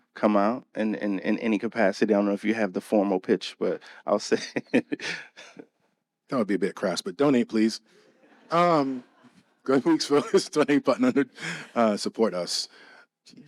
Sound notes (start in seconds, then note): 3.6 laughs; 9.6 audience laughing